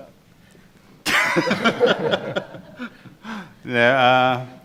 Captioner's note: laughing; chuckle